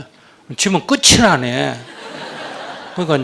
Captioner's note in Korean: 청중 웃음